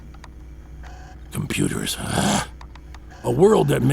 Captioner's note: mechanisms tinkering